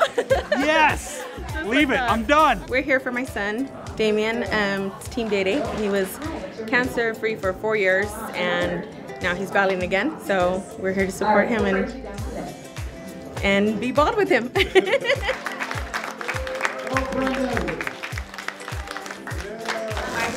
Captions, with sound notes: Yes! Leave it, I'm done! We're here for my son Damian. It's "Team Day-Day." He was cancer-free for four years and now he's battling again, so we're here to support him and be bald with him! [APPLAUSE]